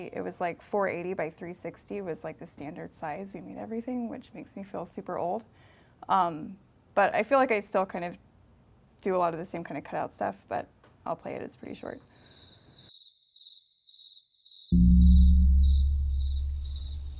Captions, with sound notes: it was like 480 by 360 was like the standard size we made everything, which makes me feel super old. But I feel like I still kind of do a lot of the same kind of cut off stuff. But I'll play it. It's pretty short. (crickets chirping)